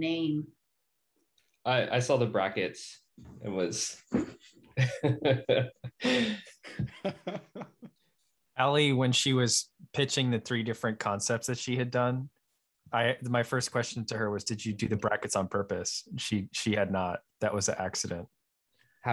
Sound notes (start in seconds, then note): 4.8 laughing